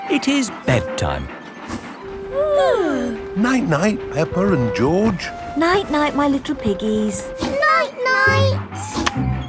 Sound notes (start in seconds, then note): 2.3 both yawning